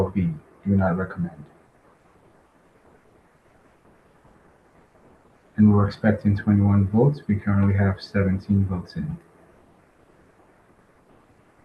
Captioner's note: pause